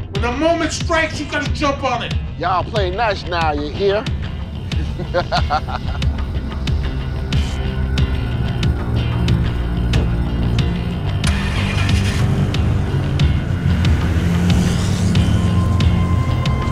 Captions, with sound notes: When the moment strikes, you gotta jump on it. - Y'all play nice, now, you hear? (vampire laughs) (dramatic music)